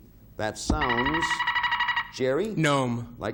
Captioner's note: buzzer beeping